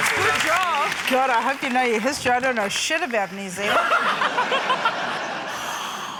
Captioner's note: laughter